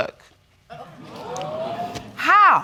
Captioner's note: audience gasping